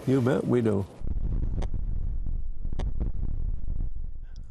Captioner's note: wind rustling